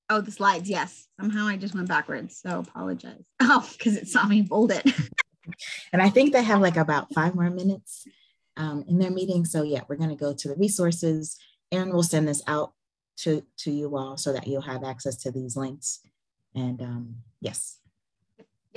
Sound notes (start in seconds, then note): 4.8 laughs